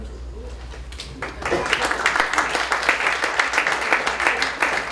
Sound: applause

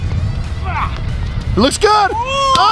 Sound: grunts

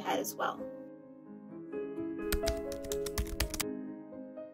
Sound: typing sound effects

